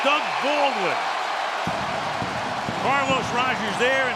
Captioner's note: cheering